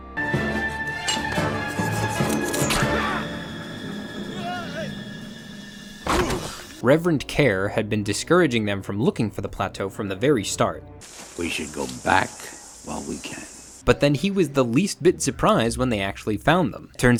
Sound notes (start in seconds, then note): 0.0 suspenseful music; 4.4 man grunts